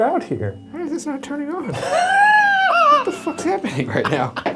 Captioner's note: laughs